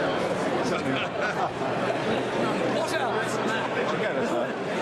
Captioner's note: crowd chatter